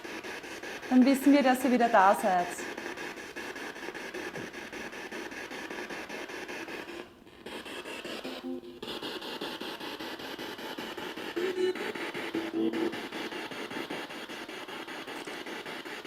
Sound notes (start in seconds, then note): 3.4 noise of the spiritbox in the background